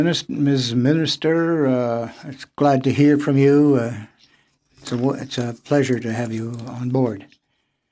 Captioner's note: speaking French